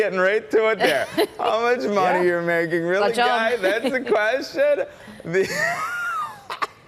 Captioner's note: laughter